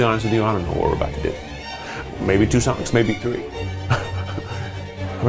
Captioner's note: laughs